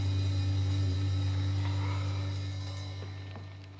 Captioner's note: exhales